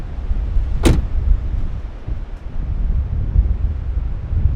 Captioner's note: car door slams